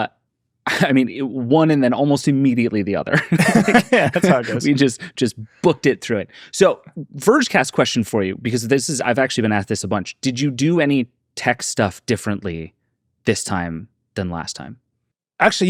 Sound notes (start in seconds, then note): 3.1 laugh